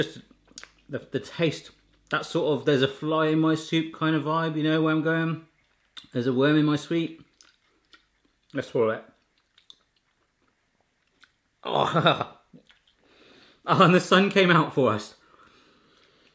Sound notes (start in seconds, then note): 9.1 chewing